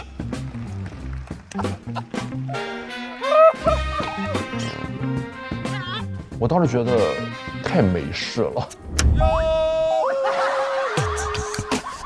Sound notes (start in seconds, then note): 3.2 laughing so hard he knelt; 10.2 american-style suppressed laugh